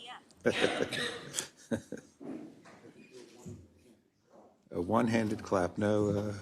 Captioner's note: laugh